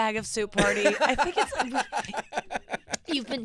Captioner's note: laughing